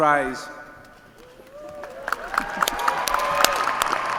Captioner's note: applause